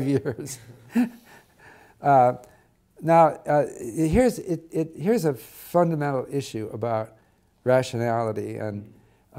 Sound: laugh

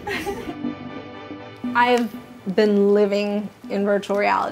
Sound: laugh

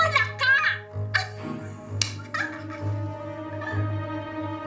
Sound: giggles

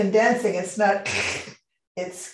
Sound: makes crunching sound

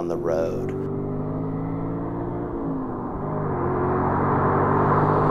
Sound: engine revving

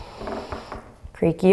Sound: floor creaking

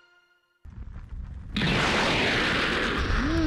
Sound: craft whooshing

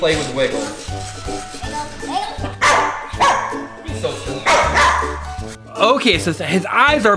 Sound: dog barking

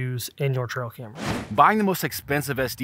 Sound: whooshing

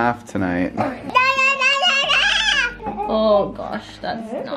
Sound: crying

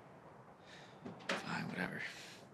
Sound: he sighs

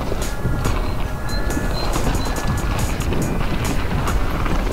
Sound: birds tweeting

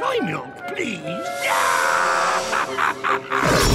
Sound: laughing

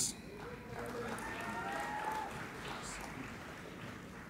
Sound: applauding and cheering

